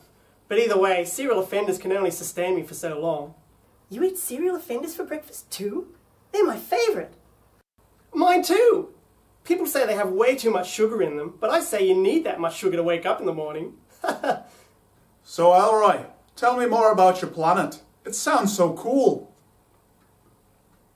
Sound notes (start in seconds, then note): 13.9 both laugh